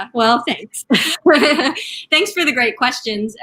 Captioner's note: laughing